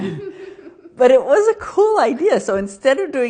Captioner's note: both laughing